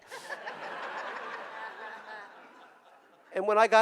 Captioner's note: audience laughing